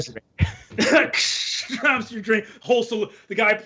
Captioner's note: hisses